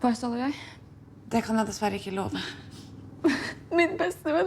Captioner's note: sobbing